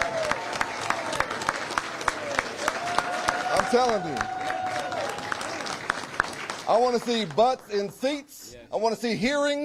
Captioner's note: applause